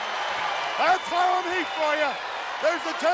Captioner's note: crowd cheering